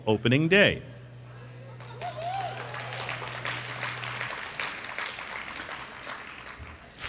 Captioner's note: applause